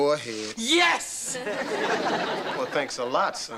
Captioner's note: audience laughter